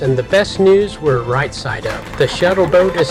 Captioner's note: applause!